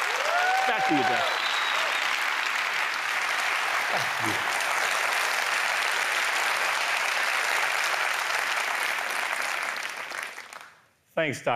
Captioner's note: applause